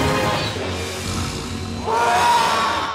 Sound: roaring

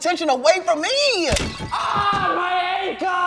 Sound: glass breaks; thuds

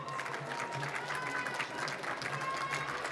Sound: applause

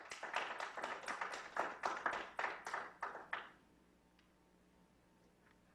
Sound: clapping

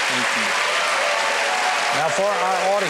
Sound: applause

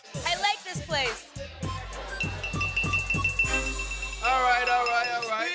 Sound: Pauly tapping glass with silverware

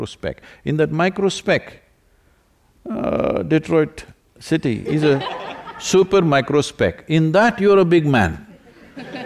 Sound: laughter

